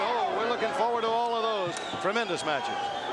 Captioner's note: crowd chatter